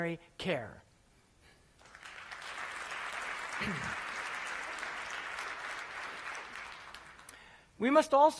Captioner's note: applause